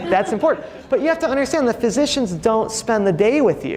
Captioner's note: audience laughing